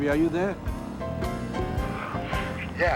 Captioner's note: kissing